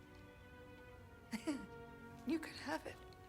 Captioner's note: chuckle